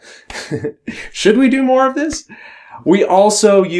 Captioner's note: chuckles